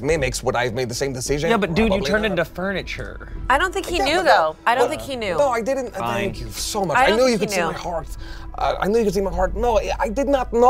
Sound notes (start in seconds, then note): none